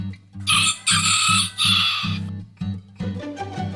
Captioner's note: gentle music; rooster crows